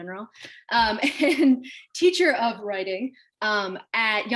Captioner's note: chuckles